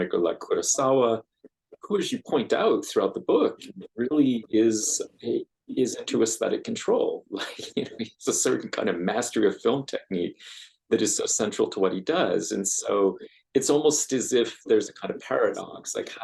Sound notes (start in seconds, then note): 7.4 laughs